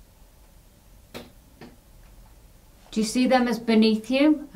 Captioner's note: quiet clattering